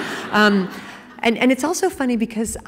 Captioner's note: laughing